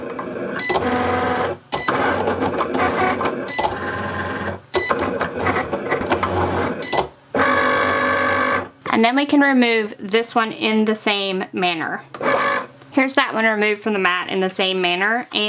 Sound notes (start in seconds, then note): 0.0 Cricut machine whirring; 0.1 Cricut machine beeping